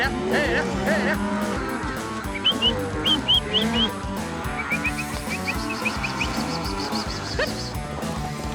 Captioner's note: whistling, calling